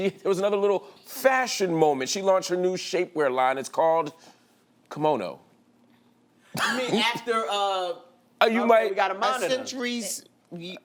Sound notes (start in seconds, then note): 7.7 laughs